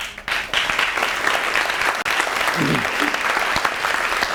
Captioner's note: audience clapping